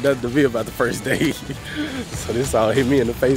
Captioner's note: laughing